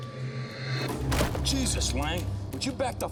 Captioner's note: body thumps